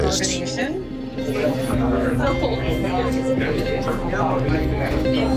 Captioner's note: chatter